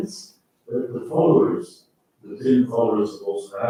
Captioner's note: faintly speaking